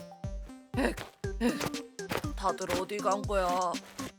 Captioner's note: panting